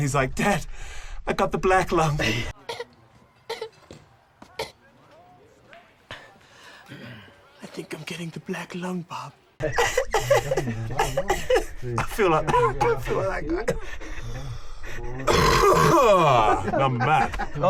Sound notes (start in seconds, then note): 2.6 coughs; 9.7 coughs; 15.2 coughs